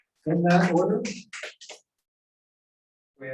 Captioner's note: applause